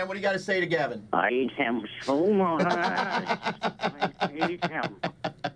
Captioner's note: imitates voice; Mike laughs